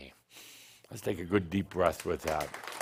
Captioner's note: audience applause